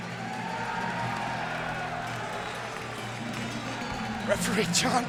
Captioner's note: audience cheering